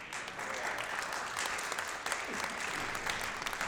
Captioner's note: applause